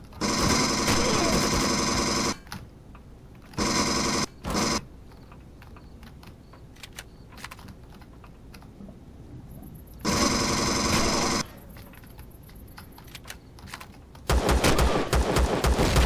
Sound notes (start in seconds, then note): 0.1 pinging; 0.2 alien gunfire; 0.2 pulse rifle; 5.1 footsteps; 6.5 reloading; 10.1 pistol firing; 10.1 pulse rifle; 15.7 explosion